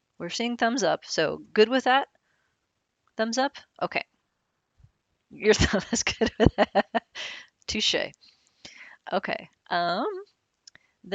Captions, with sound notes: We're seeing thumbs up, so good with that? Thumbs up? (giggles) Touche'.